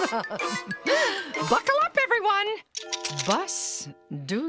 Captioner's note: laughs; seat belts clicking